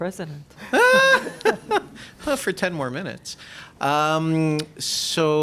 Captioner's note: laughs